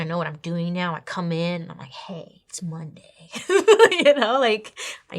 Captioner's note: laughs